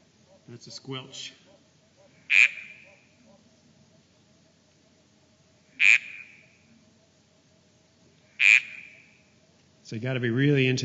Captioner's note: sound of frog call